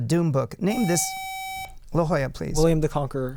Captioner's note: buzzer